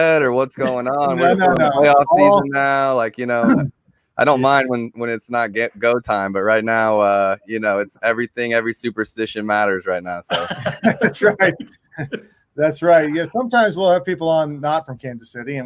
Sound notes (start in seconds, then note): 10.3 laughing